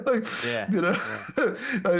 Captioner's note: laughs